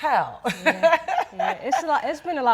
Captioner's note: laughing